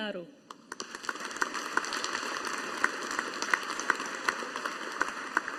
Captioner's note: audience applauding